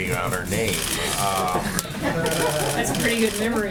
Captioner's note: laughter